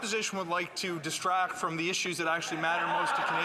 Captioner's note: some Applause